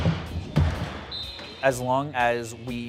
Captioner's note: whistle